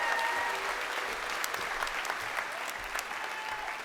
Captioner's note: crowd cheering